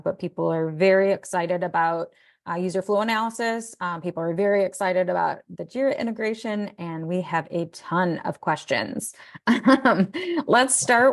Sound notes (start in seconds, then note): 9.4 laughing